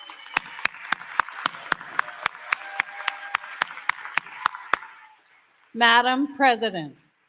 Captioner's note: applause